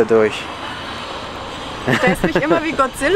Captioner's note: laughs